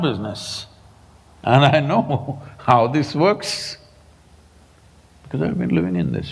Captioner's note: laughs